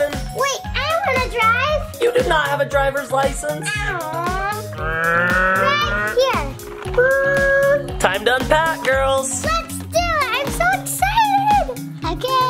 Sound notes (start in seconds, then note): 4.9 car revving; 6.8 car tires screeching